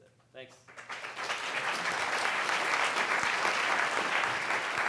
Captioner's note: audience applauding